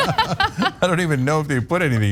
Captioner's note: laugh